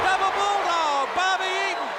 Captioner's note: crowd cheering